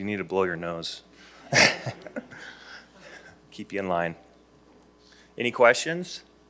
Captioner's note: chuckles